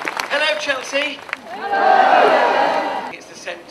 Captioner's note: crowd